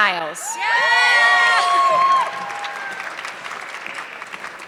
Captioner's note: audience clapping